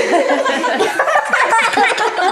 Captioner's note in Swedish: skratt